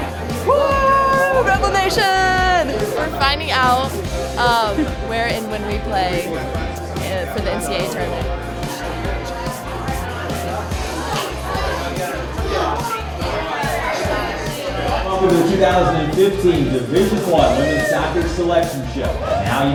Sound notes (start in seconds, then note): 9.4 crowd chatter; 9.4 upbeat music